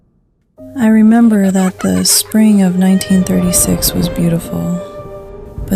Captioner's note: laughter, then the sound of a storm